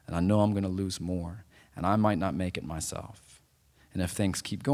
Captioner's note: none